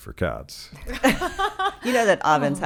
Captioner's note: laughing